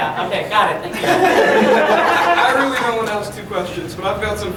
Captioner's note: audience laughing